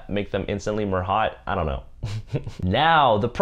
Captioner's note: chuckles